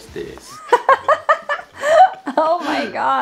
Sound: laughs

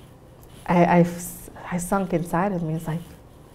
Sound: stammers

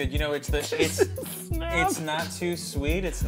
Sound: laughing

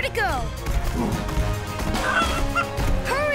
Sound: clucking

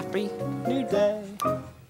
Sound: snaps fingers

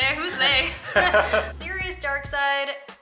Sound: laughter

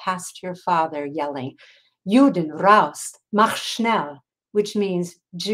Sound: speaking in foreign language

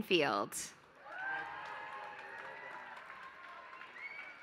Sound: applause

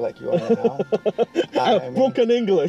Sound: laughs

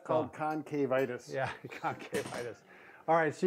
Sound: laughing

